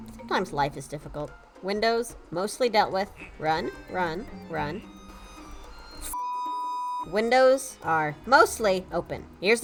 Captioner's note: beeping tone